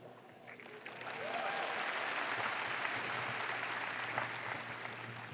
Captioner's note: applause